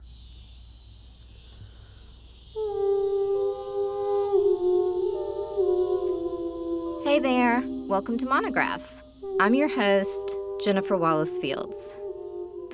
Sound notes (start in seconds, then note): 0.6 insects chirping; 3.7 bright ambient music